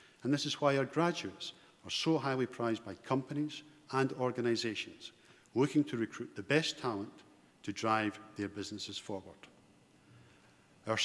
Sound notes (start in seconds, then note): none